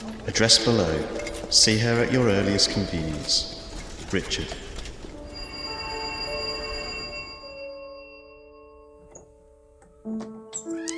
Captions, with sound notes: Address below. See her at your earliest convenience. Richard [Doorbell]